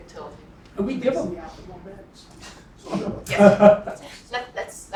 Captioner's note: laugh